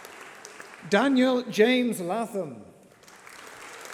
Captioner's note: applause